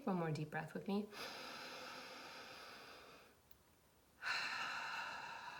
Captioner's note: deep breathing